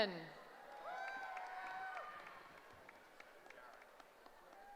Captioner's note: cheering